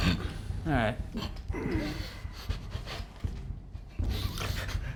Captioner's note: whimpering